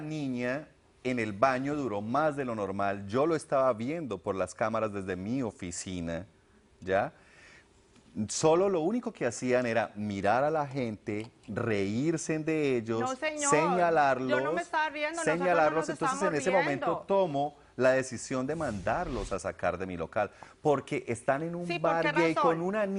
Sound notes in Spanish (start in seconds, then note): 16.7 Hablan al unísono